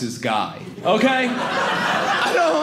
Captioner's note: audience laughing